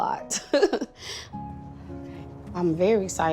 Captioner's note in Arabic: يضحك